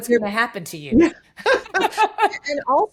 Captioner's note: laughing